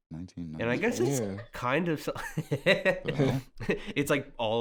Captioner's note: laughs